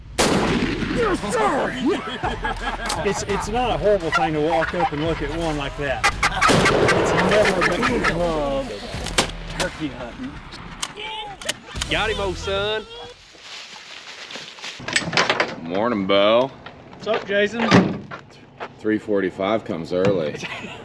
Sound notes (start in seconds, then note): 0.0 gunshot fires; 2.4 people laughing; 6.2 gunshot fires; 7.6 turkey yelping; 8.5 gunshot fires; 13.5 leaves rustling